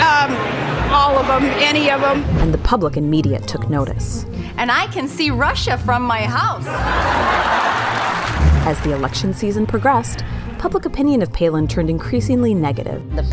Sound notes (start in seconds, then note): 6.6 crowd Laughs